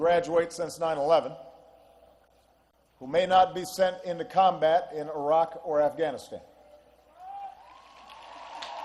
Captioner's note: applause